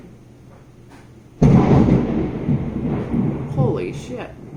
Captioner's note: thunder